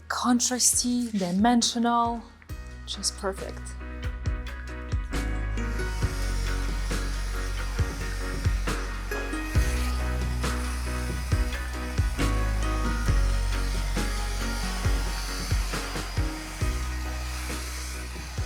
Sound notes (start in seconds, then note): 4.7 pleasant music; 6.6 blower whirring